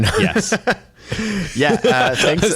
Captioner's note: laughs